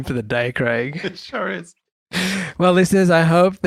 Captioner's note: laughs